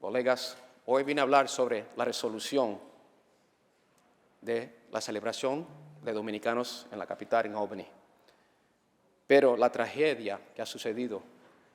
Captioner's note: speaking spanish